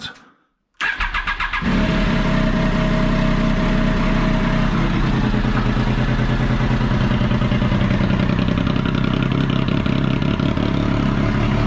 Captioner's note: engine Starting; engine Running